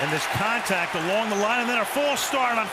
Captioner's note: booing